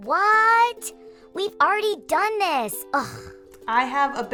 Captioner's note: sighs